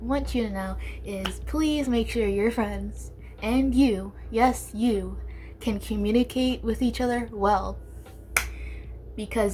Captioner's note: aggressively claps